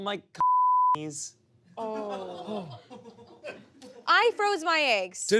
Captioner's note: beep; laughter